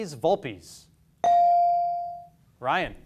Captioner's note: beep